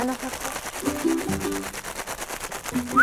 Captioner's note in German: Klackern mit Futter